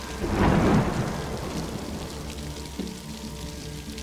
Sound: thunder booms

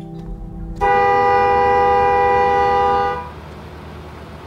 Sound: horn beeping

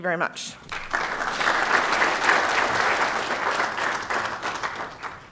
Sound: applause

